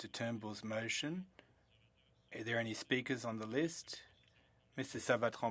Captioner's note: speaking French